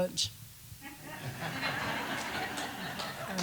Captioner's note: laughter